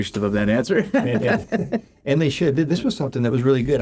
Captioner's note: laughs